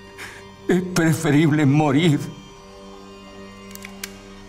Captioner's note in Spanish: Llorando